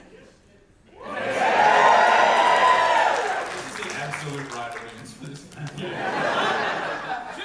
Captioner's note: audience cheers